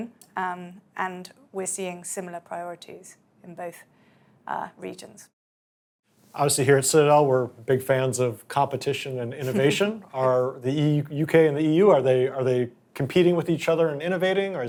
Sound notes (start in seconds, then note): 9.4 chuckling